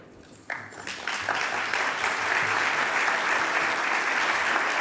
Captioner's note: audience clapping